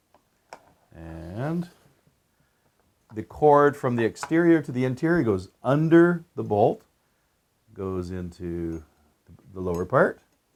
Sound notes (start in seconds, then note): none